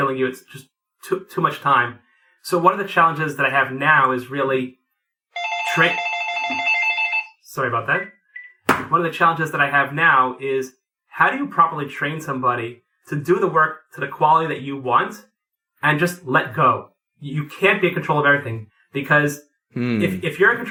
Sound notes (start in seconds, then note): 5.3 phone rings